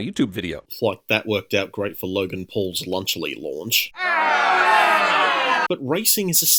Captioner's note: boos